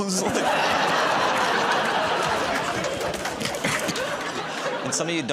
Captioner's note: laughter